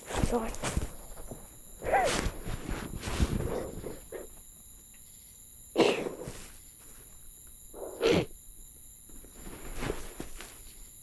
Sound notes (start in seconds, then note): 2.1 Max crying